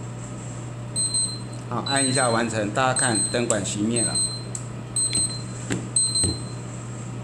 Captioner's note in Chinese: 倒計時響鈴